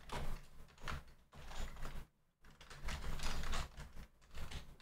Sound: typing

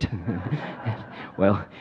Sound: audience laughs

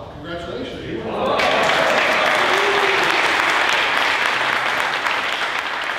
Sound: audience applauding

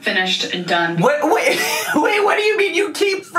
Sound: laughs

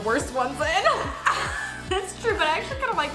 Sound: both laugh

